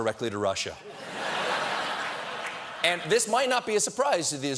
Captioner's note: laughter